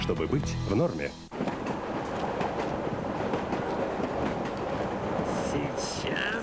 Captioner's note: train noise